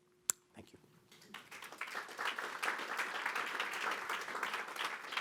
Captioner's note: audience clapping